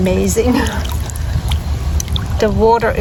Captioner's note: laughs